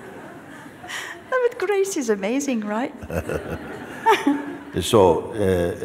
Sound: laughter

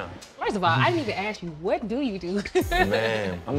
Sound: chuckles

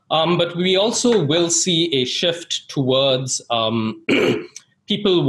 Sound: clears throat

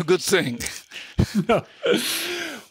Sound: laughter

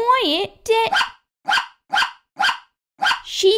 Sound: bark! Bark! Bark! Bark!

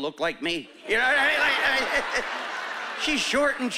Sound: chuckling

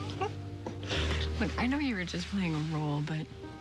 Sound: laughs

